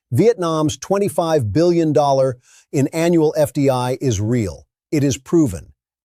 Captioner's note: breath